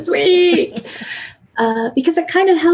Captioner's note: laughing